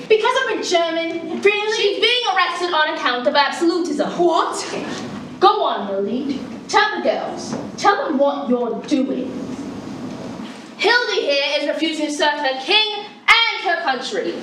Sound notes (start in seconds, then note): none